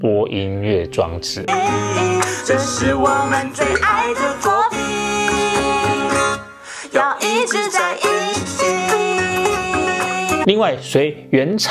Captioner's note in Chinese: 來賓請掌聲鼓勵